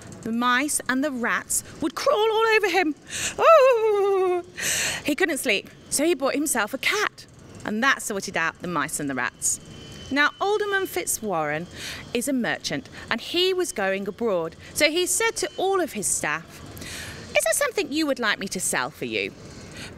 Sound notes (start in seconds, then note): 2.1 shrieks